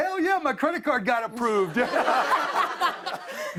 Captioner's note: laughter